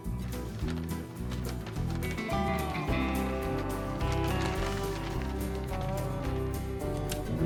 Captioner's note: paper crinkling